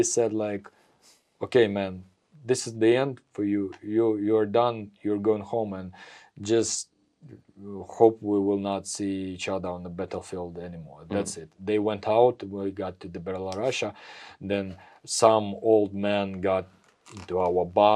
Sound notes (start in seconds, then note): none